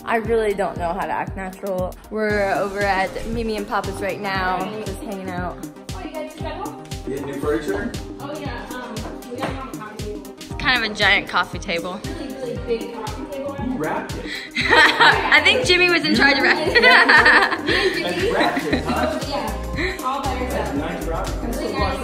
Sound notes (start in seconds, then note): 14.5 laughs